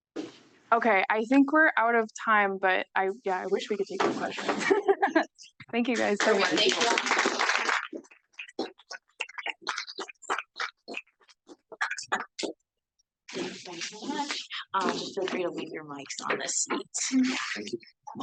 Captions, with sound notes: - Okay, I think we're out of time. Thank you guys so much. (audience applauds) - Feel free to leave your mics on the eat.